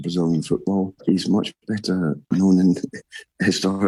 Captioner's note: laughs